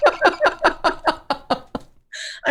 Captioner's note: laughter